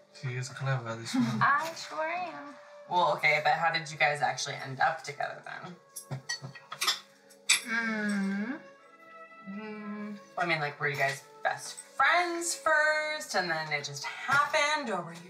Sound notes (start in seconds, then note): 5.9 silverware clang